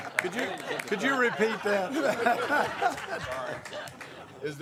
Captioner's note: laughter